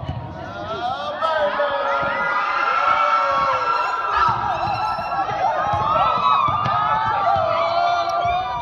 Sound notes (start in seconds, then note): 0.4 group cheers